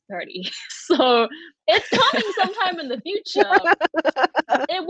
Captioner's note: laughing